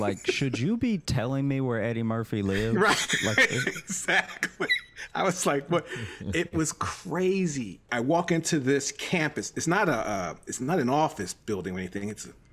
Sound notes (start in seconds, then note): 2.5 laughs